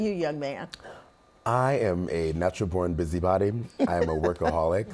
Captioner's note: laughing